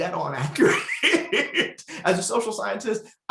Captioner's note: laughing